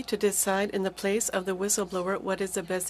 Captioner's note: speaking French